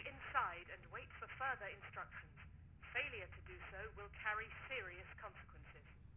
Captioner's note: intercom